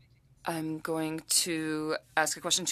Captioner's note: speaking French